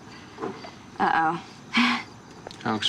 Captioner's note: chuckles